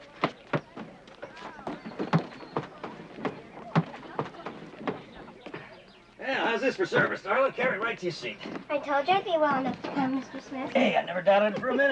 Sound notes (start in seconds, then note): 0.2 chatter; 2.1 footsteps